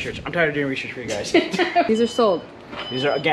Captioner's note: giggling